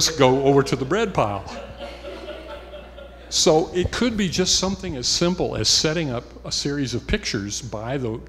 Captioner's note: laughter